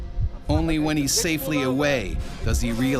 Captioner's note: voiceover